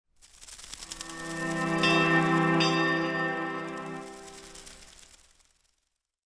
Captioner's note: gentle string music; bell dings